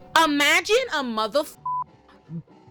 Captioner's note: beep